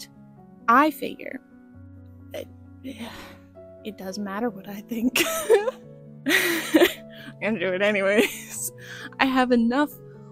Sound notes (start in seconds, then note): 2.9 sigh; 5.1 laughter